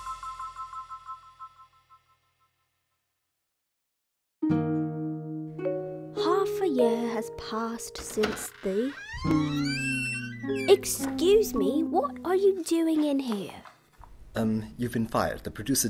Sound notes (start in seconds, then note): 7.9 door opens